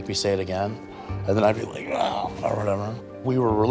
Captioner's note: grunts